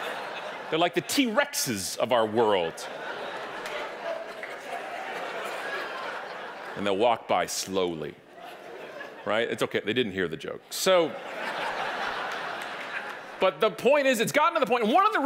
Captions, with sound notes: They're like the T-Rexes of our world. (audience applauding) And they'll walk by slowly, right, it's okay, they didn't hear the joke. (audience laughing) But the point is, it's gotten to the point